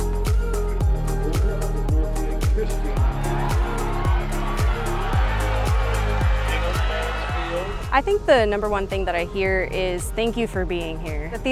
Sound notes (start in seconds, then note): 2.6 audience cheers